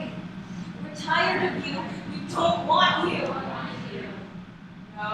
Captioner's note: echoes